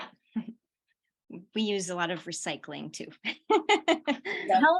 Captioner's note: laughter